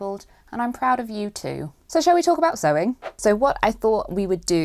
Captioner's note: whoosh!